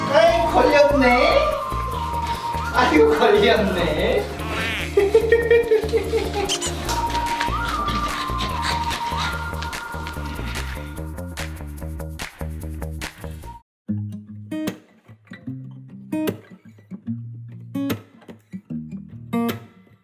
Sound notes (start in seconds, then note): 4.4 laughs